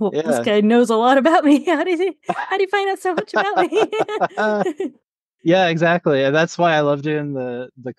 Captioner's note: laughs